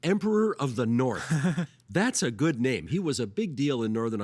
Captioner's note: chuckling